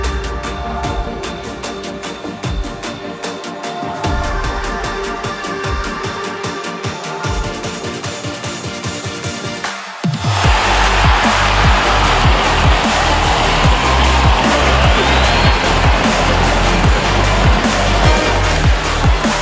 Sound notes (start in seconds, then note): 9.6 crowd cheering; 10.3 upbeat music